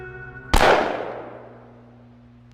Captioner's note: gun shot